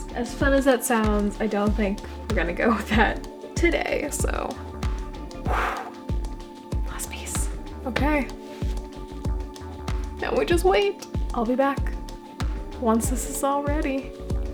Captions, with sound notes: As fun as that sounds, I don't think we're gonna go with that today, so. [loud breath] Last piece. Okay...now we just wait! I'll be back...once this is all ready.